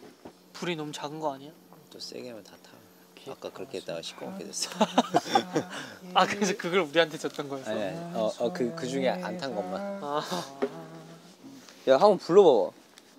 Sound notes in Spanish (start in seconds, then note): 4.3 Jajaja